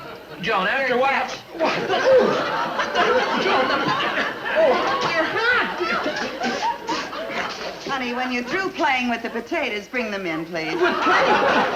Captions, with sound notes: - Joan, you know what else? What the? Joan! (audience laughing) - Honey, when you're through playing with the potatoes, bring them in please. - Playing?